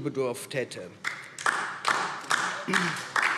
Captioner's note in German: Beifall DIE LINKE